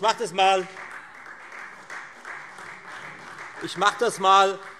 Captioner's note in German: Beifall Freie Demokraten